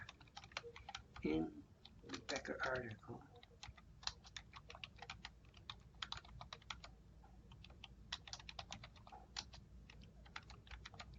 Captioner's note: typing